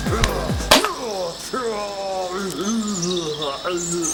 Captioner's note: thug groaning; birds tweeting